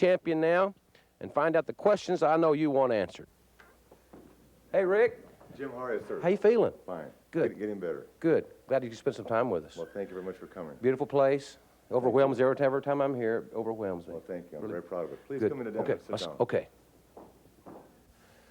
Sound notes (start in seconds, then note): none